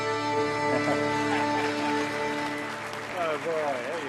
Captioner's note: audience applauding